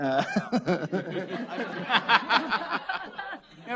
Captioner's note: laughter